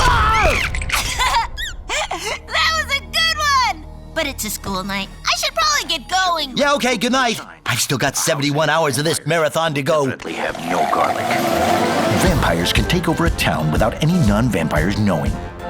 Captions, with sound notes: Agh! [laughing] That was a good one! But it's a school night, I should probably get going. Yeah, OK, good night! I've still got 71 hours of this marathon to go. ..we have no garlic! Vampires can take over a town without any non-vampires knowing.